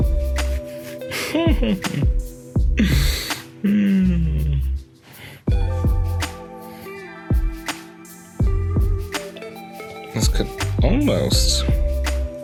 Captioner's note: laughs